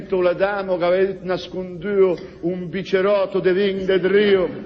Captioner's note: none